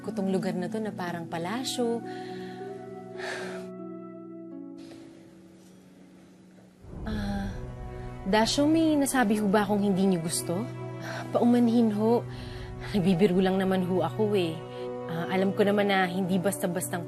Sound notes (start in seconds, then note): 3.0 Yin sighs